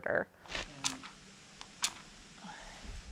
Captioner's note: matches striking